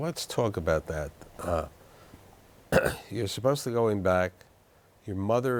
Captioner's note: clears throat